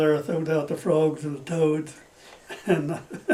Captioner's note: laughs